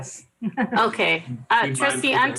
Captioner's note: laughs